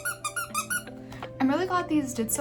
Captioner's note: squeaking noises